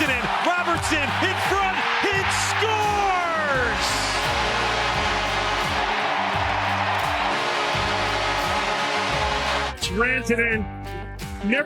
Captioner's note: goal horn